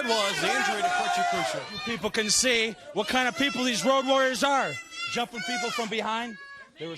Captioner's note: crowd cheering